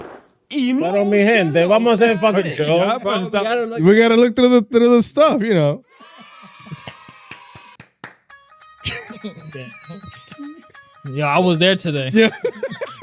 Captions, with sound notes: Emo. What on me hand? They're almost saying fucking chill. We gotta look through the stuff, you know? (Cheering) Yeah, I was there today.